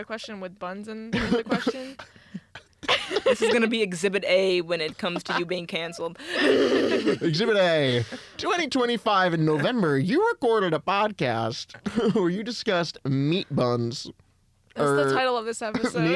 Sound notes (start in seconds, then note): 1.1 laugh; 4.8 laughs